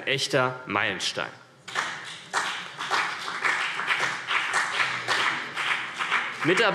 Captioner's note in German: Beifall BÜNDNIS 90/DIE GRÜNEN und vereinzelt CDU